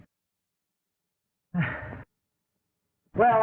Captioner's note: sighs